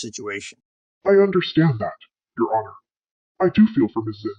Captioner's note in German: verzerrt